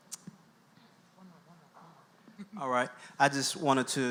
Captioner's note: laughs